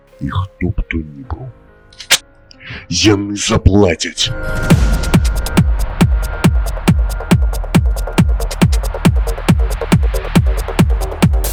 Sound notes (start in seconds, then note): 2.0 gun bolt sound